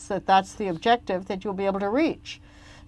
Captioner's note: speaking French